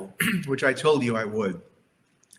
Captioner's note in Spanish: se aclara la garganta